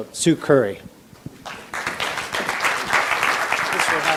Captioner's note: audience applauds